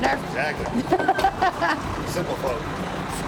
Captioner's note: laughs; laughs